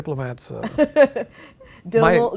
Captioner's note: laughing